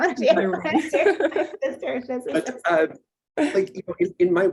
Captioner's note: gets drowned out by laughter